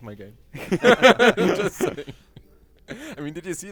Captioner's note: laughter